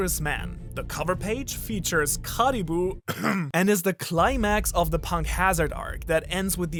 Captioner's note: caughs